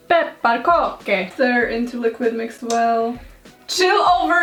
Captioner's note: Google translate voice speaks; clicks tongue for no reason